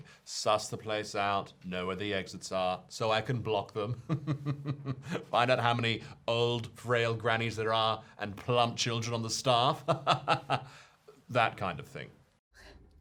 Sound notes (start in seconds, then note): 3.8 laughing; 9.9 laughing